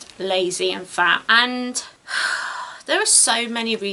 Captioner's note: sighs heavily